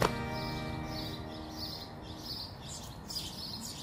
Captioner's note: birds chirping